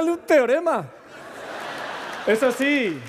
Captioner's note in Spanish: Risas